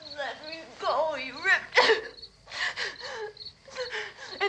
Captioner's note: sobs